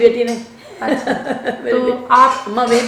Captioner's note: both laughing